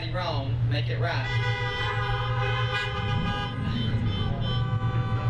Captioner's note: horns honking